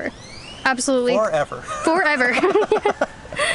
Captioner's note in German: Gelächter